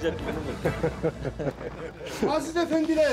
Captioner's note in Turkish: Gülme sesleri